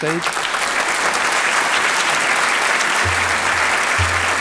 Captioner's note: applause